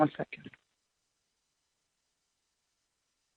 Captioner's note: silence